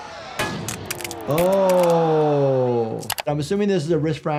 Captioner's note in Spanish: la audiencia grita